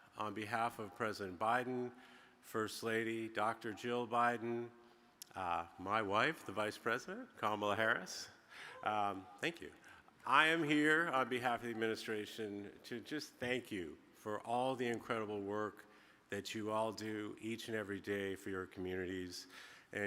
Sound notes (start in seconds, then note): 8.7 attendee cheering